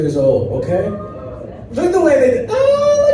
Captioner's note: crowd murmurs in amazement